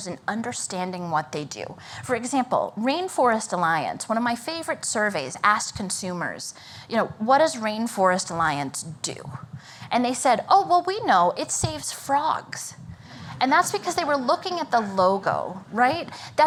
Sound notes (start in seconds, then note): 12.9 laughter